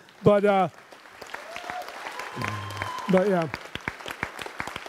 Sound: audience applauds

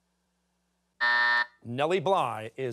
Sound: buzzer

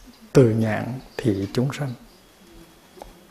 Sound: foreign language

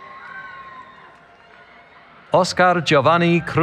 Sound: cheering

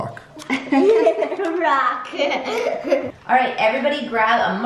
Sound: laughing

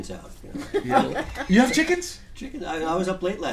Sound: voiceover

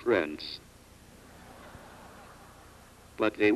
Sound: audience laughs

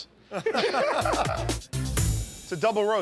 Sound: laughter

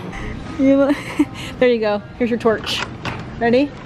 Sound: laughs

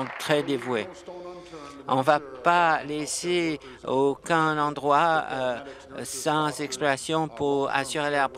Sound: applause

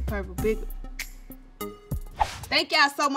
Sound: relaxed music; air whooshing

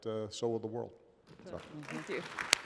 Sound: applause

